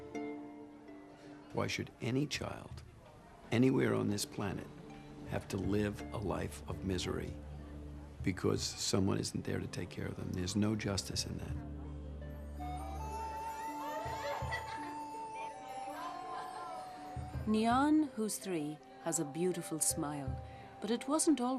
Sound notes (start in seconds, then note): 13.8 children laughing